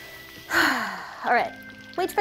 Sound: loud exhaling

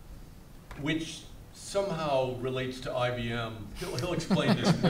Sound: panelists laugh

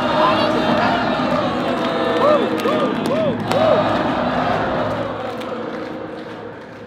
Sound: crowd continues chanting; chanting fades

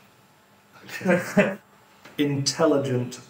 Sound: laughs

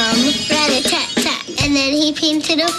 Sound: imitating Drum

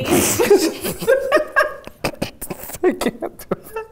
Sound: both laughing

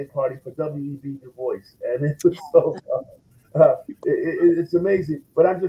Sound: laughs

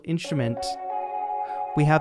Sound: harp sound effects play

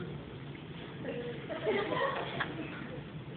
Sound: laughter

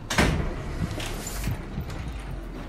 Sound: door opens; door slams

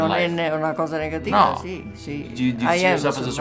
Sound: speaking in Italian

